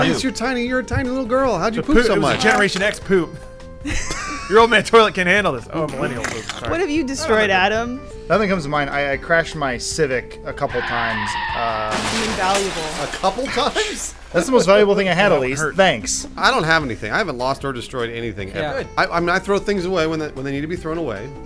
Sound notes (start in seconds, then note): 3.8 laughter; 10.6 car screeching noise; 10.7 car crashing noise